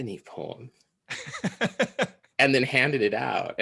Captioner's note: laughter